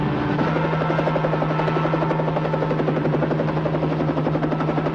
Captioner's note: helicopter roaring